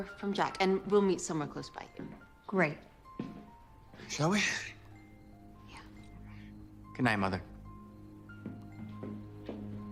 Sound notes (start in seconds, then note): 4.8 whispers; 7.8 ominous music